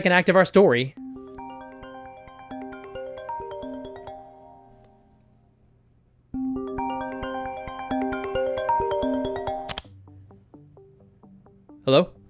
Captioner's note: phone rings